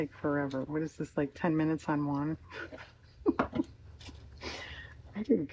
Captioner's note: laughs